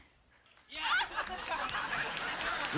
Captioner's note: laughing